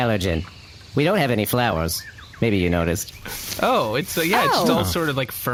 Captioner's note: brushing aside foliage